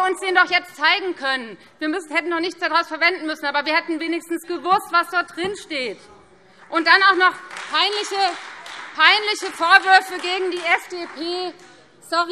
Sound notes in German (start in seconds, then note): 6.6 Beifall Freie Demokraten